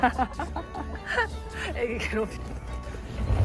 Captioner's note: laughs